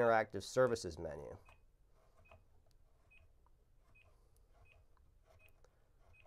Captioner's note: beeping